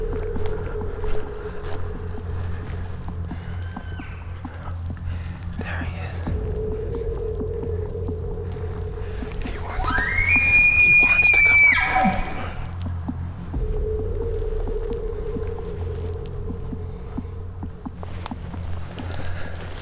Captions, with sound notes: (Caller cow calling) There he is. They’re in a... He wants to. (Caller bugling) He want’s to come up.